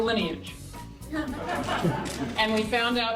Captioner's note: audience chuckling